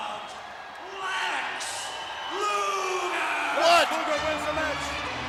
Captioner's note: crowd cheers